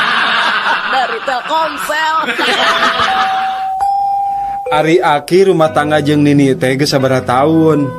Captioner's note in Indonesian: tertawa